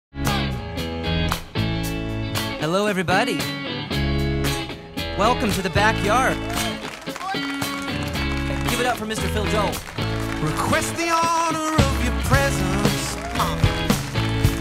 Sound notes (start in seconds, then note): 0.0 lighthearted rock music; 6.4 audience clapping